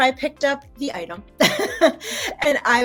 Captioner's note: laughs genuinely